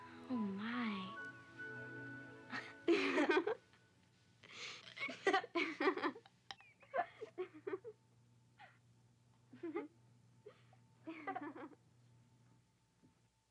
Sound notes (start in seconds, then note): 0.0 pleasant music; 2.5 both giggle